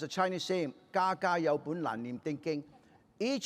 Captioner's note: speaking chinese